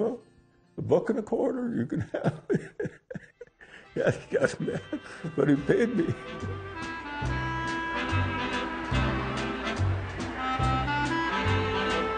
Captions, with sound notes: but I said, well, a buck and a quarter, you can have them. (laughs) But he paid me. (orchestral music)